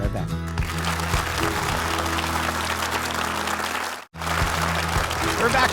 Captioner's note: upbeat music; audience applauding